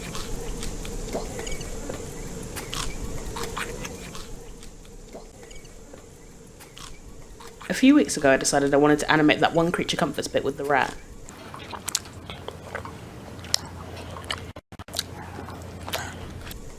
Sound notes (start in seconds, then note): 3.9 sounds from the tv fade to a lower volume; 12.0 rat chewing